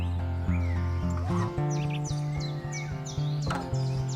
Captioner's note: birds chirping